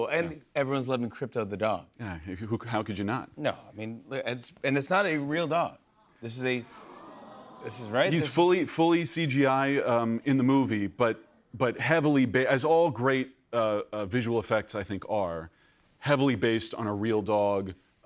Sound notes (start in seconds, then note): 6.7 audience awws